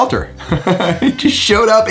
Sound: laughs

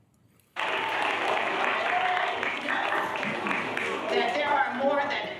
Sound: applause

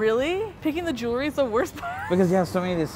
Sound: laughs

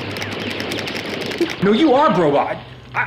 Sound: controller clicking

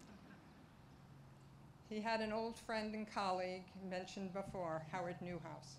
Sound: laughter

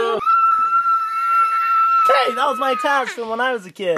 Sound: screaming

